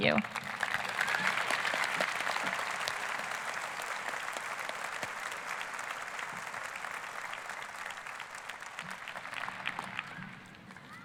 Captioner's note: applause